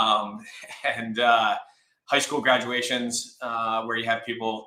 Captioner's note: laughs